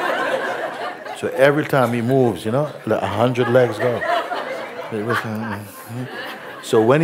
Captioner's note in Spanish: risas